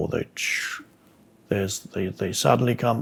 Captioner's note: makes the sound of something moving